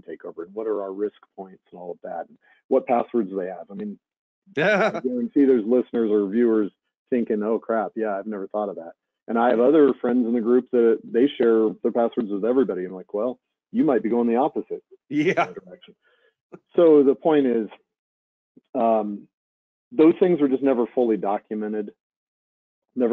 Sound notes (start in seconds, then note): 4.6 laughing; 13.8 chuckles